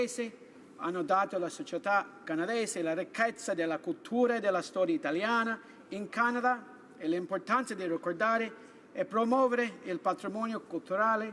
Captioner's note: speaking italian